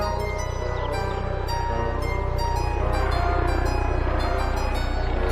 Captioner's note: helicopter buzzing